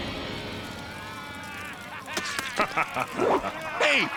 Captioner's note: laughing